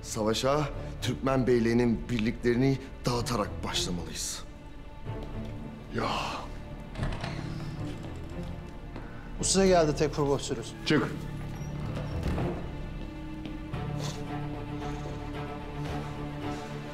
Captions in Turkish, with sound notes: Savaşa Türkmen beyliğinin birliklerini dağıtarak başlamalıyız. Yaa! (Kapı açılma sesi) Bu size geldi Tekfur Vasilius. Çık. (Müzik - Gerilim)